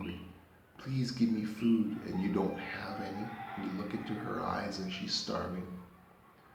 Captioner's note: roosters crowing